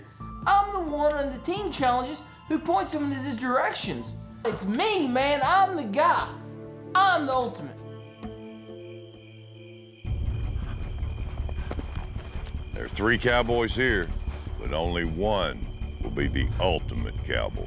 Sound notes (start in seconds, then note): 10.2 horse approaching